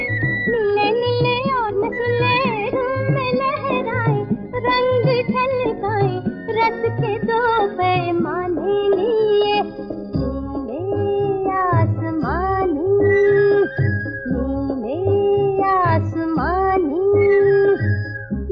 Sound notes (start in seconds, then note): none